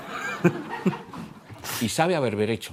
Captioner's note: laughter